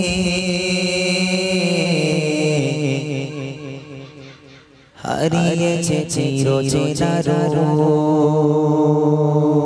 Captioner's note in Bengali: সশব্দ হাসি